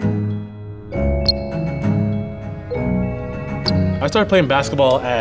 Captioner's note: shoe squeaking